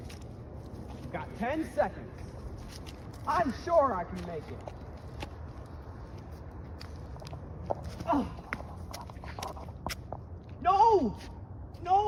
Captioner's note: moans in agony